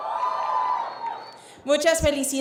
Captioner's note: cheers